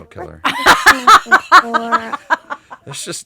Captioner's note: laughing